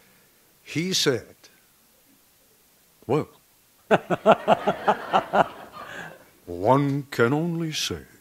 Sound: background laughter

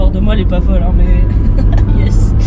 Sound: nervous laughter

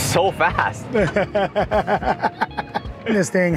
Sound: laughing

